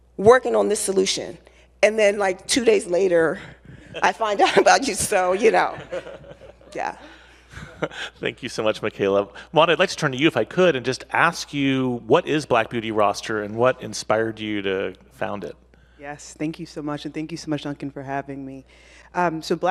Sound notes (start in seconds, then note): 7.4 laughs